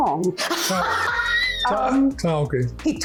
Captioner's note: laughing